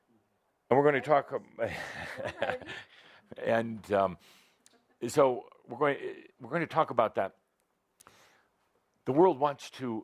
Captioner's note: chuckles